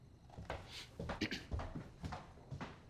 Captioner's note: mealworm clears throat